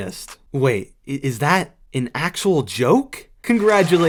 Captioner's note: applause